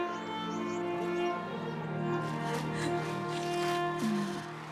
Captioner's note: birds chirping; gentle music